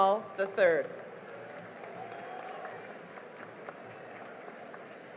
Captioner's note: cheering and applause